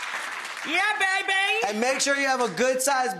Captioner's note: audience claps; yells